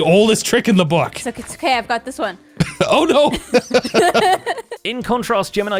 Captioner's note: laughs